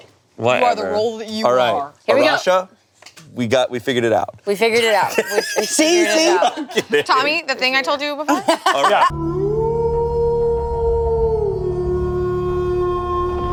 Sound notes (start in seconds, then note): 4.8 laughs; 9.2 werewolf howling